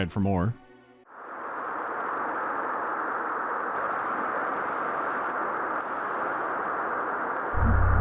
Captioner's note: deafening rush of water current